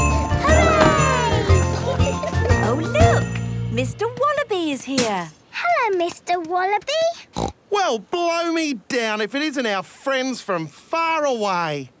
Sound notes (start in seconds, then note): 0.0 kids laughing; 1.6 laughter; 7.3 snorting